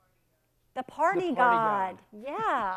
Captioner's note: laughs